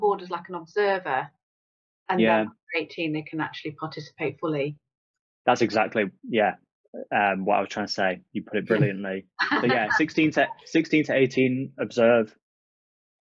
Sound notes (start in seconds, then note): 8.5 laughs